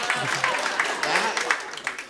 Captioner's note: laughter; applause